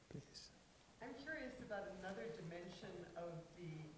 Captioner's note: voiceover